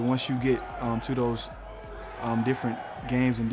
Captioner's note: players shouting